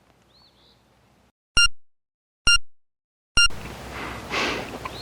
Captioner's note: machine beeps